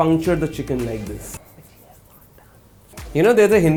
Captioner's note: whispering